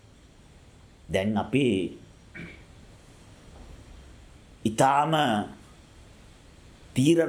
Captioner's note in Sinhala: උගුර කෑරීම